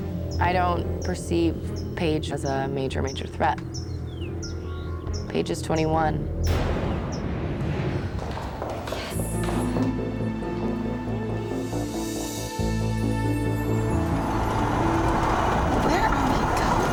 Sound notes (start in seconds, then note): 6.4 ominous music; 8.1 footsteps clacking; 11.8 gentle dramatic music; 13.6 car whooshing